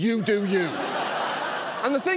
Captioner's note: audience laughs